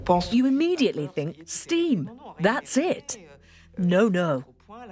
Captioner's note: voiceover